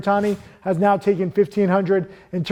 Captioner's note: air whooshing